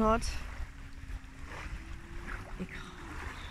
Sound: waves

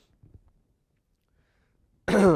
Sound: cough

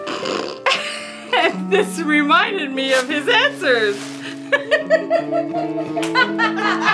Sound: laughs

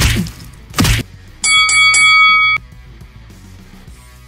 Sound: bell dings three times

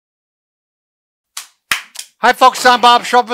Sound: clapping

